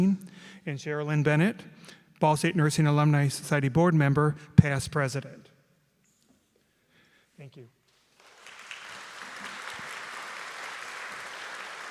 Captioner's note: applause